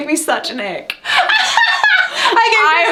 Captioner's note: laughing